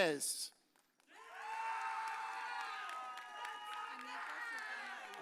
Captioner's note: audience cheers